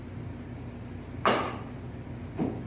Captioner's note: thump